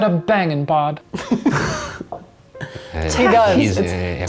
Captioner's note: all giggling